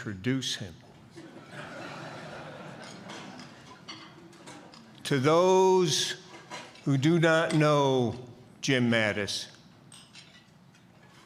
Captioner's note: laughter